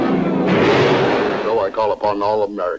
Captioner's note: water splashing